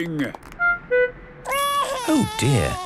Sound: crying

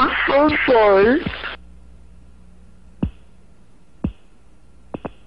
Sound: popping sounds of solid rocket booster separation

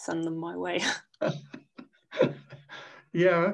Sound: laughing

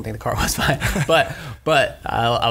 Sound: scattered laughs

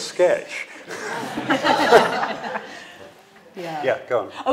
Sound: all laughing loudly

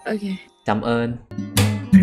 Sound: Vietnamese

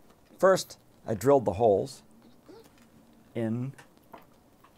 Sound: voiceover

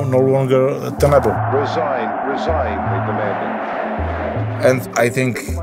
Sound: crowd sounds

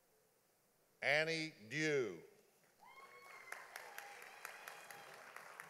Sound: audience applauding

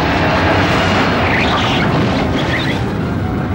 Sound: tires squealing

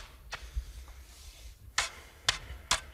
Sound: he's breathing heavily

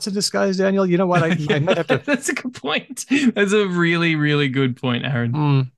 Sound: laughter

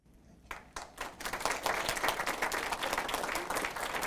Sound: applause

